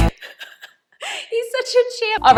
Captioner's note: funky music; laughing